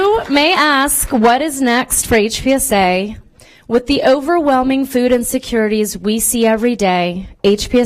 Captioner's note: applause